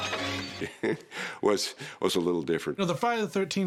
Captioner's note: chuckles